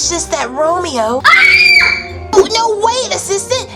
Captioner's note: screaming